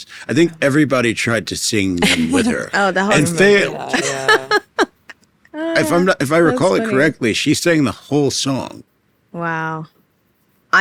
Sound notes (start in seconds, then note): 3.1 laughing